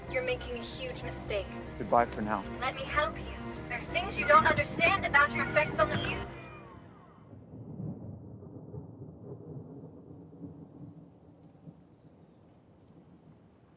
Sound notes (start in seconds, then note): 7.2 A.N.I. whines